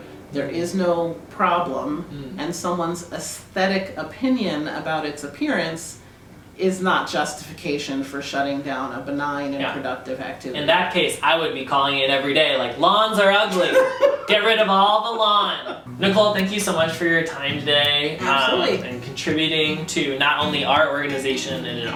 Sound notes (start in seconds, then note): 13.6 laugh